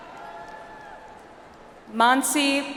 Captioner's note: audience applauds